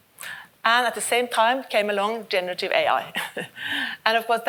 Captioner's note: chuckles